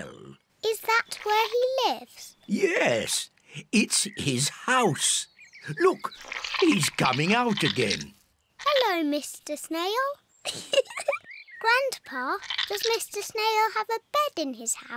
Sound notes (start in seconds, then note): 10.4 giggles